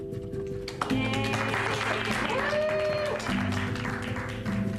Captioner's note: inspirational music; family cheering; inspirational music